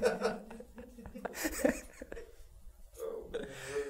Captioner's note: laugh; laugh in the Background